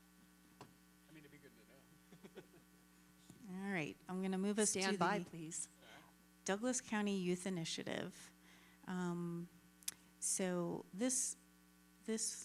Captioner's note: laughter